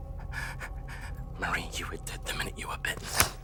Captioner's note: Gerry panting